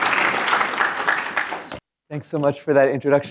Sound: applause

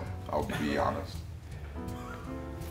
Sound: laugh

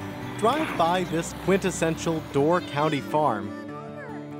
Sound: voiceover

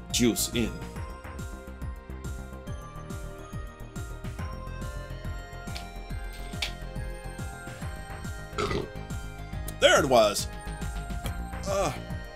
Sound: burp

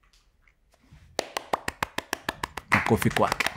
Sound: claps

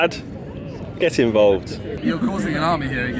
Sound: laughs

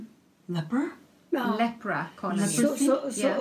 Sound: foreign language

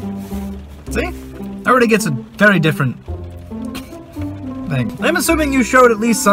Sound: giggle

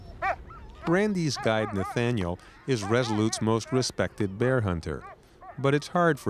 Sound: speaking in foreign language

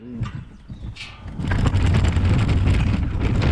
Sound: gate creaks; wheels scraping

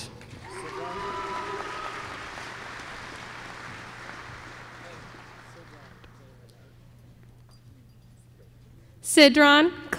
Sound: applause

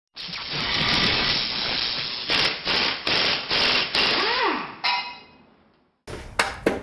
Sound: buzzing sounds; drilling sounds

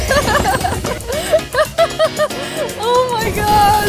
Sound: laughs

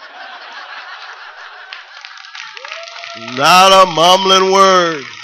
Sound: laughter

